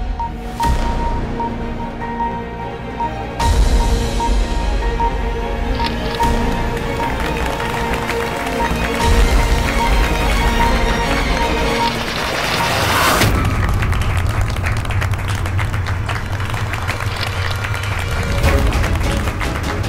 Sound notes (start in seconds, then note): 8.7 clapping; 18.1 adventurous music